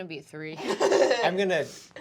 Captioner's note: laughing